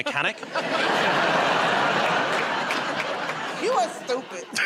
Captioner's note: laughter and applause